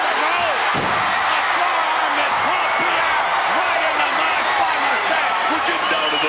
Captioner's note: crowd cheering drowns out Vince